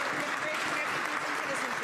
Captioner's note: some Applause